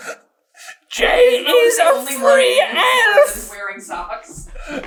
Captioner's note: squeaky